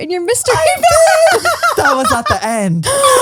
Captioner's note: laughs